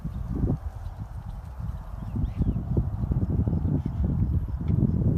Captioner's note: wind blowing